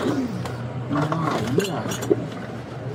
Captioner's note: speaking in foreign language